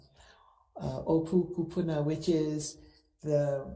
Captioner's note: speaks foreign language